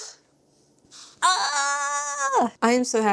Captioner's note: squeals